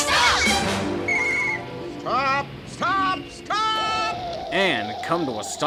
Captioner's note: blows whistle